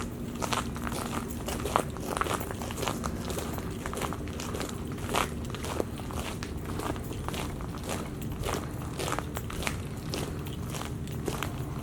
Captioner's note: footsteps on shell